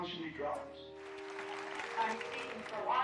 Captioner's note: group applauding